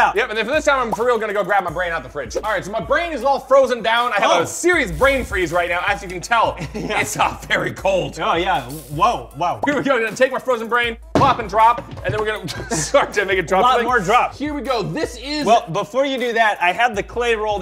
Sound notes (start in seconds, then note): 6.5 chuckles; 8.7 sizzles